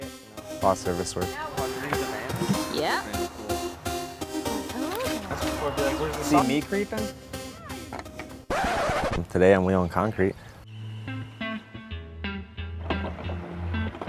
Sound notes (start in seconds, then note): 5.2 mumbling; 8.4 record scratching; 10.7 mellow music